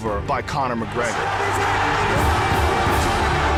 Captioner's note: crowd cheering